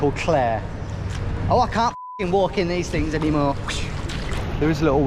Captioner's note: beep